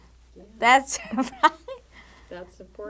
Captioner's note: laughing